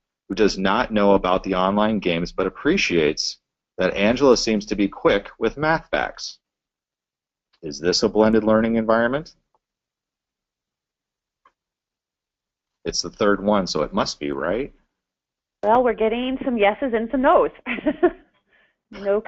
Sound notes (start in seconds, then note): 7.0 pause; 12.8 pause